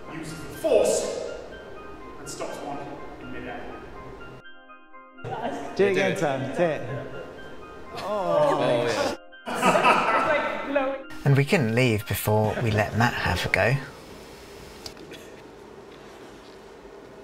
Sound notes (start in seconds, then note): 9.4 laughter